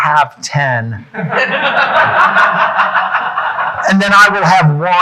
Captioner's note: audience laughing